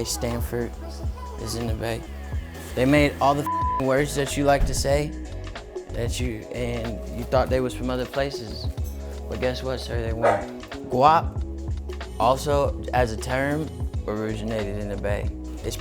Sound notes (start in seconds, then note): 3.4 beep